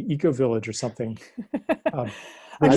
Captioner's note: lacht